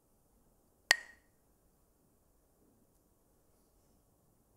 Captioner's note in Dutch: klakt met stokjes